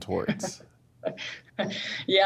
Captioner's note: laughing